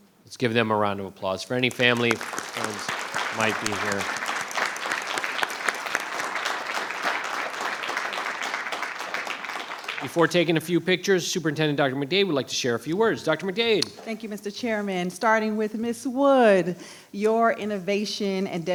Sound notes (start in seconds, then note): 4.2 audience applauding